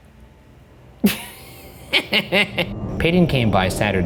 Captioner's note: laughs